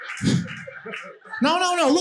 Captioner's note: audience laughing